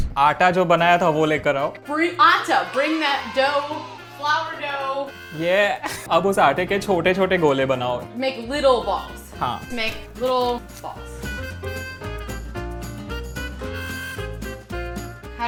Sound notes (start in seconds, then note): 0.2 speaking in Hindi; 6.4 speaking in Hindi; 11.6 upbeat jazz music playing